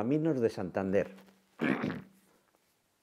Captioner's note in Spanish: carraspea